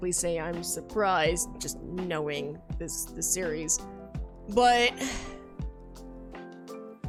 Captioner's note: sighs